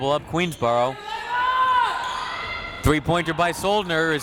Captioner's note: crowd members shouting